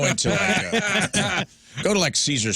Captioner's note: laughter